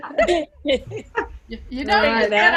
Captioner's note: laughter